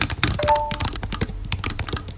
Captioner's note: notification sound